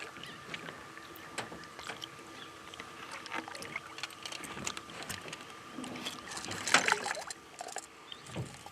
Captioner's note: reel cranking; fish splashing